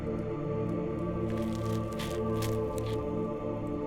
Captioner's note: knife slicing